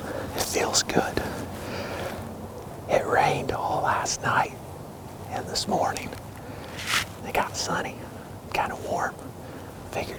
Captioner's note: whispering